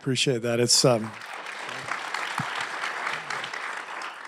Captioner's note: applause